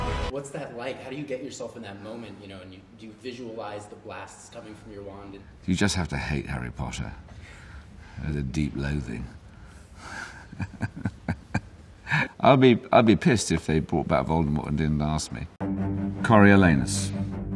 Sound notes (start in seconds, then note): 10.2 laughs